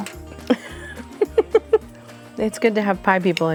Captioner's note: laughing